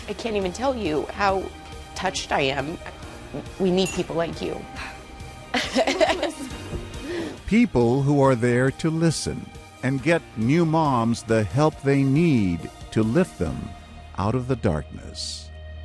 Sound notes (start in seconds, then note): 5.5 chuckles